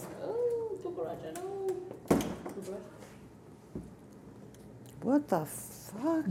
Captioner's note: people talking in background